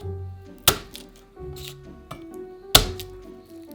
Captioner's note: garlic paper rustling